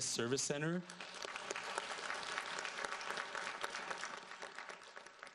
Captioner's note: audience applauds